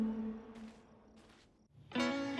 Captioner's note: footsteps